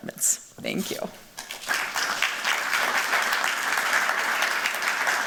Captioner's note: applause